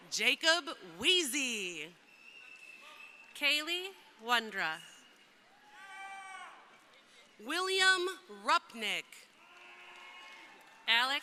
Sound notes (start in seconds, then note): 2.0 crowd cheering; 5.0 crowd cheering; 9.3 crowd applauding